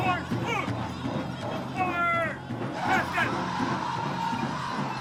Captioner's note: man shouting orders